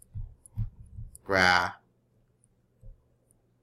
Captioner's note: speaking greek